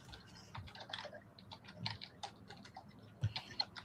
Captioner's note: keycaps clacking